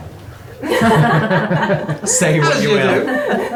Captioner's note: laughing